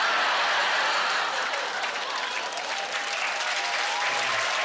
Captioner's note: applause